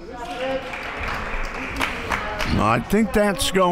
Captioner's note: crowd clapping